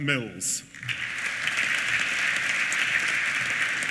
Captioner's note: applause